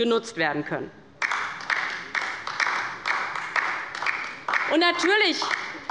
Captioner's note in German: Beifall bei der LINKEN